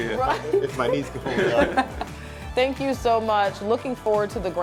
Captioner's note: chuckles